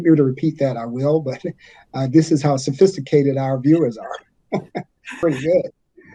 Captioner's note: chuckles